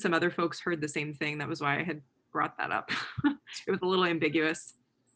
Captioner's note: laughs